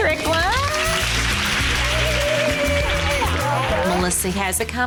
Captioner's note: cheerleaders applaud